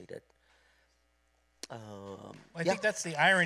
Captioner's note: applause